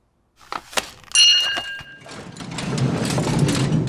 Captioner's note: bell dings